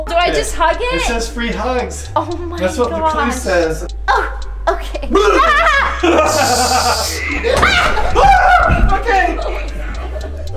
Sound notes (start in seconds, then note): 5.1 laughs